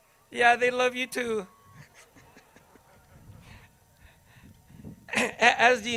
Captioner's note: chuckles